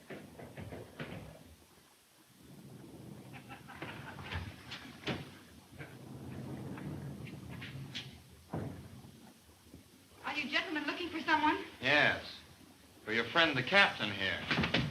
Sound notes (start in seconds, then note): 3.3 Bob laughing; 14.6 bodies scuffling